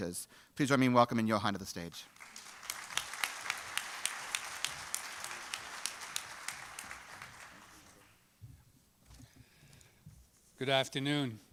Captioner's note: applause